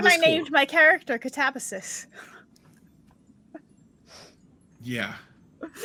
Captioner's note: laughs